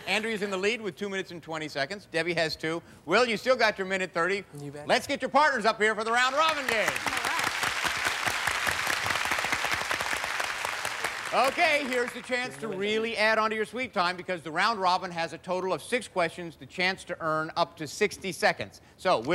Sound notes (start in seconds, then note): 6.3 cheers and applause